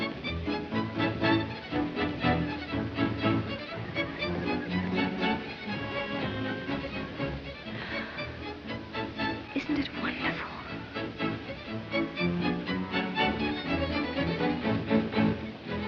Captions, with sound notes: [sighs] Isn't it wonderful? [ballroom music]